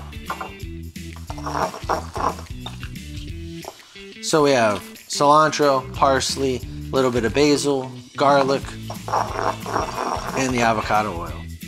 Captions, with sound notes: (pestle scraping) So we have cilantro, parsley, a little bit of basil, garlic, and the avocado oil.